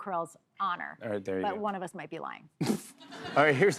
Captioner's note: laughter